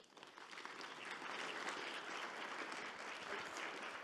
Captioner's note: audience clapping